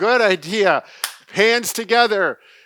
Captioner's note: clapping